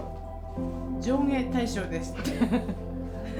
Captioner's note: laughter